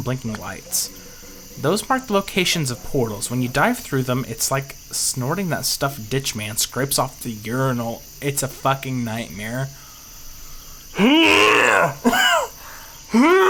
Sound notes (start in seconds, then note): 11.0 growling